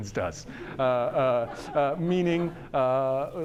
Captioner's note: audience laughter